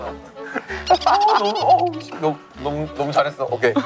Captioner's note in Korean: 깔깔깔